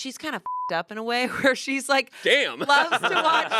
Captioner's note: beep